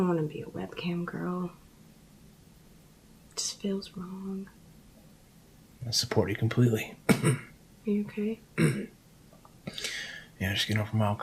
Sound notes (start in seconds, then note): 7.0 coughing; 8.6 clearing throat